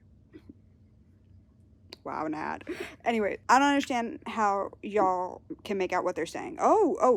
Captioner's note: laughs